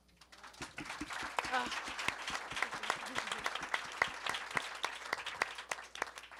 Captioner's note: audience and panelists applaud